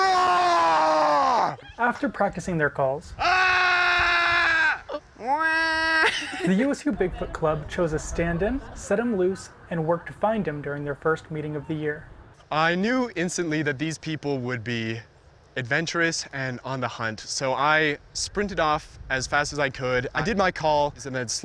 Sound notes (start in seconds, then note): 0.0 yelling; 3.2 yelling; 3.2 yelling then laughing